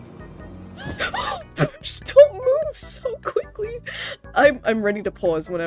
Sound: squeak of fear

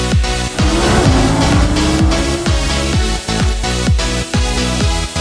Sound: sports car engine roaring

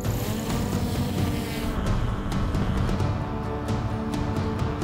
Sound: small propellers whirring

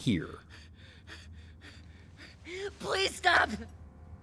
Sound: breathes heavy

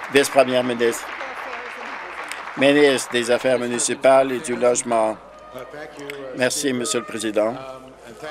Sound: some Applause

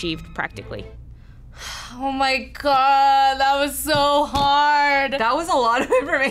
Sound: sighing

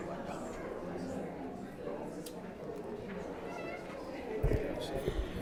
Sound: audience members talking

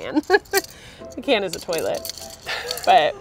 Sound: laughs

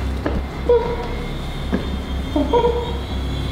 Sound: is making beeping scanning noises

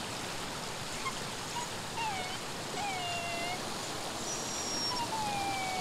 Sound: dog whimpers

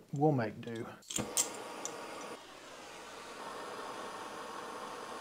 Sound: torch hissing

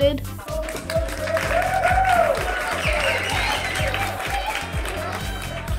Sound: people applauding and cheering

